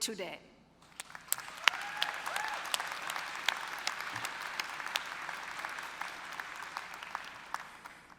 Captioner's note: applause